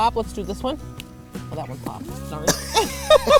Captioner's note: strawberry stem popping; laughing